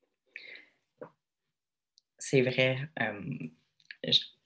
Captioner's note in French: pause 00:36:01